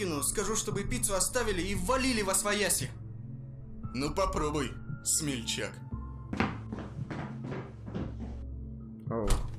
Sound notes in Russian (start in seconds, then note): 6.3 звуки шагов опять